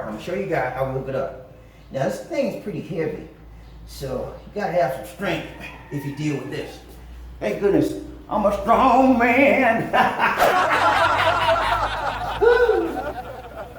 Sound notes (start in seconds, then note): 9.8 laugh track; 9.9 laughs